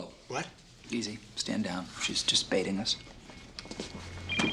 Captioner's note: phone ringing